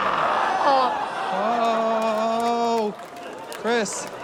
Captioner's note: laughter